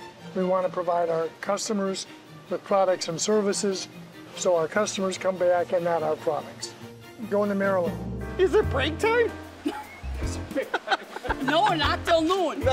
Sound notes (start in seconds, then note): 9.6 woman laughs; 10.2 laughs